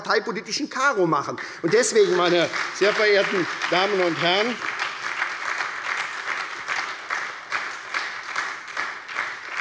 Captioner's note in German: Lebhafter Beifall bei der SPD